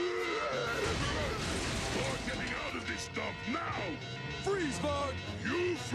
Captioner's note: roars